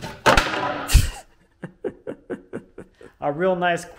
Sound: laughs

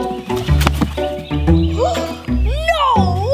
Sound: gasps

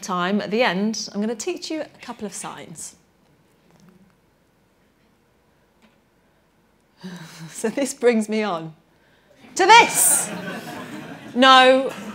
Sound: laughter

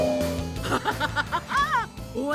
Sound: laughing

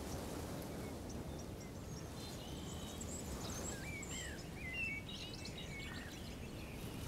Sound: birds chirping

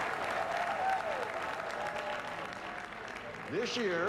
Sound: cheers and applause

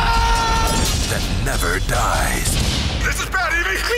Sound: voiceover

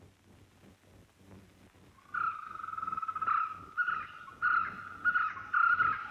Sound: birds Chirping

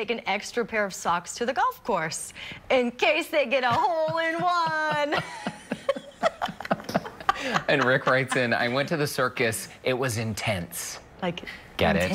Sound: laughter

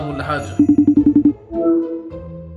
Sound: FaceTime ring

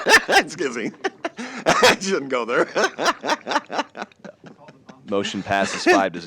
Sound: laughs

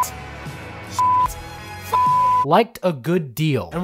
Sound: beep

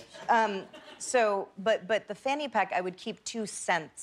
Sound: laughter

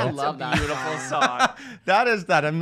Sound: laughs

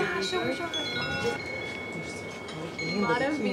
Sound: all chattering

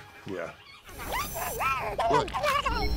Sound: chitters

